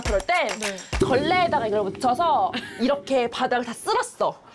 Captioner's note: ridiculous sound effect